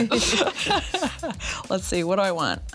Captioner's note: everyone laughs